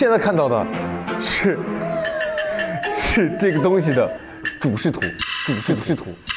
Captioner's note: laughing just thinking about what to say